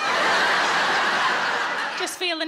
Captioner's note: audience laughing